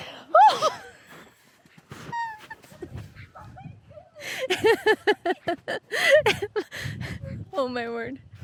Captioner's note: uncontrollable giggling